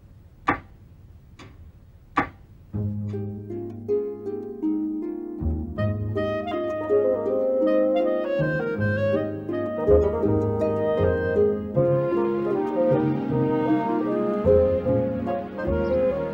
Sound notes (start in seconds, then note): none